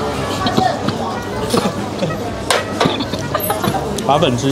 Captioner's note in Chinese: 咳咳